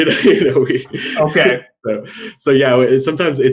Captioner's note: laughing